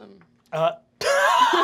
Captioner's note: laughs